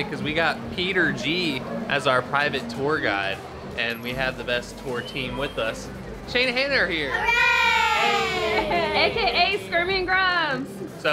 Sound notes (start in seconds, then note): 7.1 background cheering